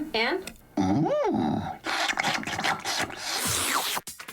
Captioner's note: slobbering